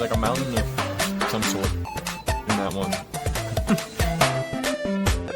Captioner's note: chuckles